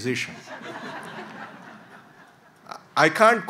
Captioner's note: audience laughs